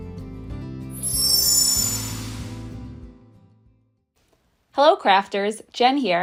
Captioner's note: bright music; chimes jingling